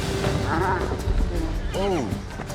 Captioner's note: horse neighs, thuds down